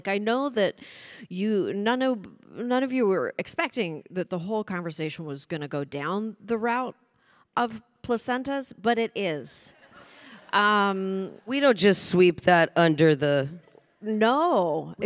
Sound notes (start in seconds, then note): 9.9 audience chuckling